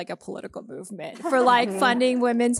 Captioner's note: all laughing